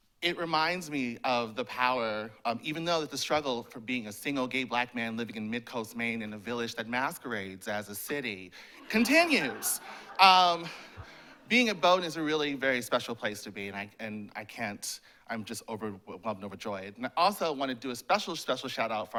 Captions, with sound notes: It reminds me of the power of, even though that the struggle for being a single, gay, black man living in mid-coast Maine in a village that masquerades as a city continues. (laughter) Being at Bowdoin is a really very special place to be, I'm just overwhelmed and overjoyed. I also want to do a special, special shout out